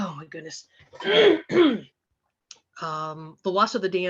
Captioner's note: clears her throat